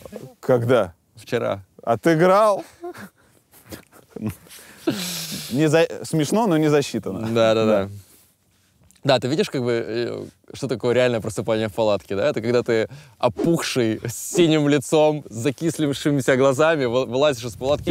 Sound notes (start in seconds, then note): 2.6 both chuckle